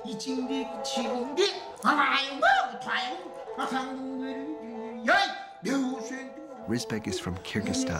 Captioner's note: sounds of theater